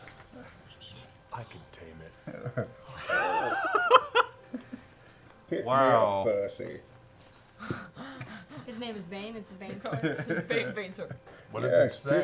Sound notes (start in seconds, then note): 2.2 laughs